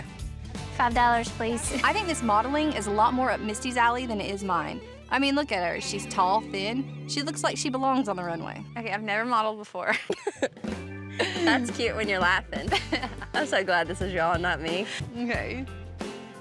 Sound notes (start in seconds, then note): 11.1 laughs